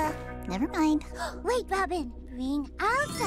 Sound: gasps

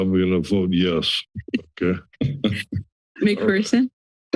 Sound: laughter

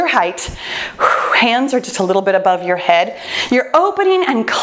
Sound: exhales

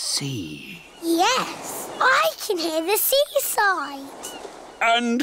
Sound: waves splashing

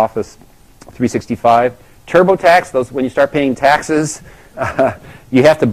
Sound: laugh

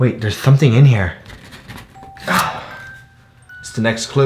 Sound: note scraping against wall

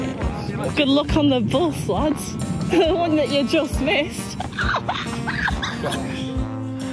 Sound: she guffaws

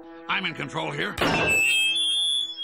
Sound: feedback screeches

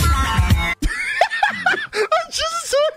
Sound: laughs

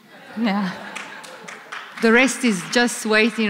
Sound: applause

